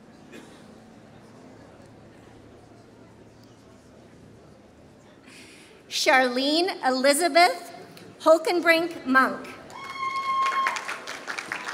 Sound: applause

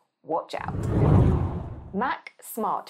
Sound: whooshing

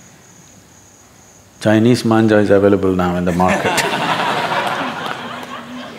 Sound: laughter

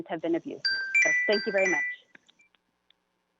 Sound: chime

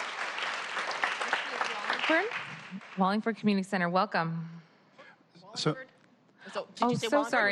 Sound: applause

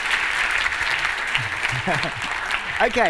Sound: applause

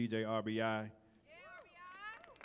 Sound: audience clapping and cheering

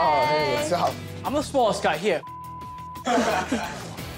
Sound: beep

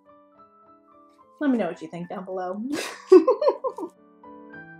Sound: giggle

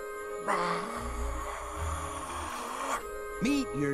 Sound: quietly

